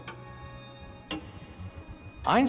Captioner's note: <i> clock's ticking slowing</i>